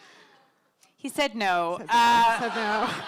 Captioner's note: laughter